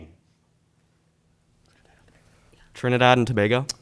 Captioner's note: group whispering